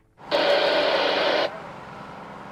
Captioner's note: radio static